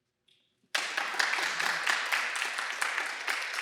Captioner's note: applause